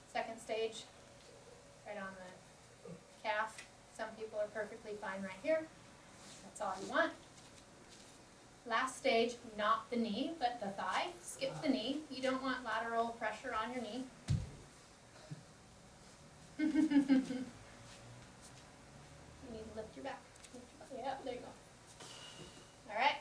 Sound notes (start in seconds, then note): 16.6 laughter